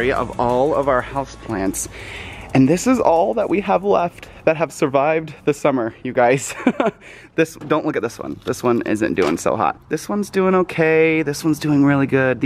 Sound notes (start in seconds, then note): 6.4 giggle